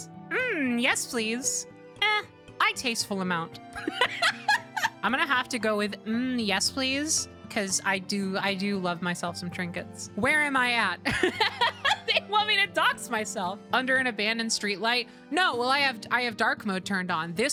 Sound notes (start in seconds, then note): 3.7 laughter; 11.0 laughter